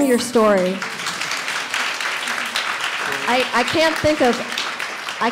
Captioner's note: audience applauds